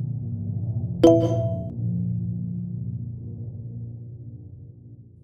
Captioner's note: message beeps